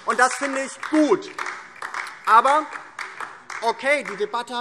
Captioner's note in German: Beifall DIE LINKE